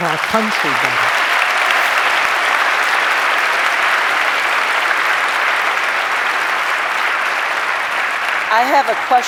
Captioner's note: applause